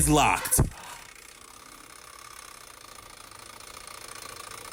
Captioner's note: clicking continues